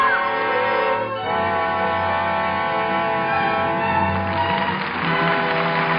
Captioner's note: audience applauding